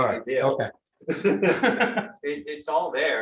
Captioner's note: laughter